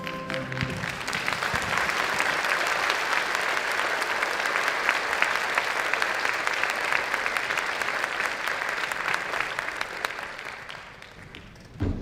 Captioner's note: applause